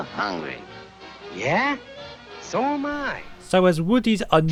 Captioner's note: deep voice